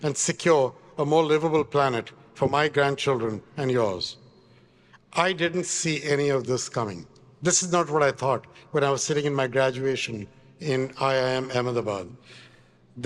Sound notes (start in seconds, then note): none